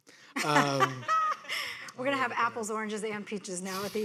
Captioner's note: audience laughing